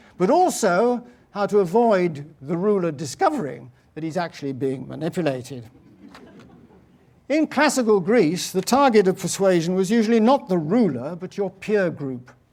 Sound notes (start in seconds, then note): 5.8 laugh